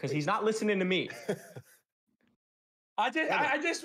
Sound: chuckles softly

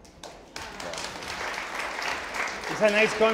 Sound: audience applauding

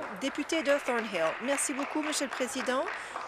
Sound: applause

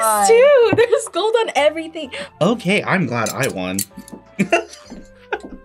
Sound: laughs

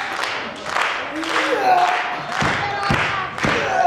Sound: clapping

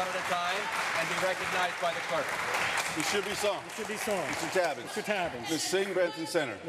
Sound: applause

